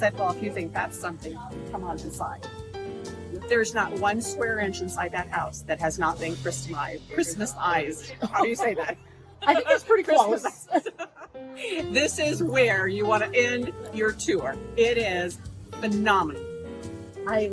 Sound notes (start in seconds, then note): 8.0 laughs; 10.1 both laughing